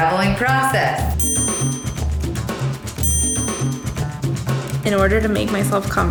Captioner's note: bell rings; upbeat music